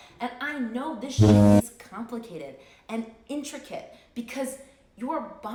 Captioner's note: ship horn blowing